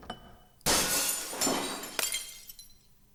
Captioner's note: glass shatters